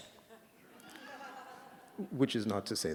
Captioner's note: laughter